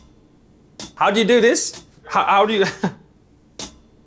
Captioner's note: laughing